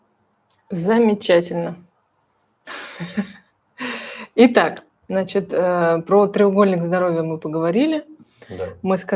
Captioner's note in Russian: смех